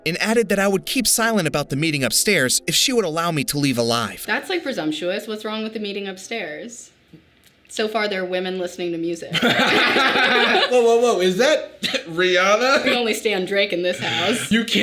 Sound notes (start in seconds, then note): 9.3 both laughing